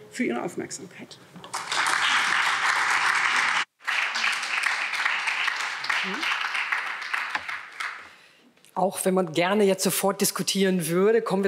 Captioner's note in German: Beifall